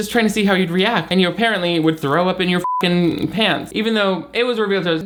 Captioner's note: beep